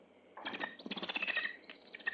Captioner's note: bird chirping